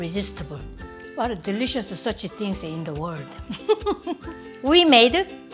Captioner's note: laughs